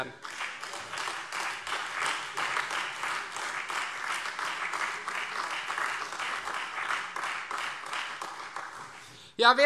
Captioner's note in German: Beifall Freie Demokraten, vereinzelt SPD und AfD